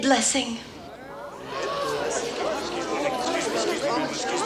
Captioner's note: townsfolk murmur